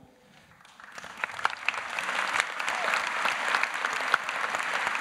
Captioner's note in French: Applaudissements